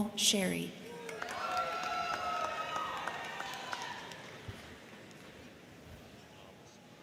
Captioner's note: crowd cheering; crowd clapping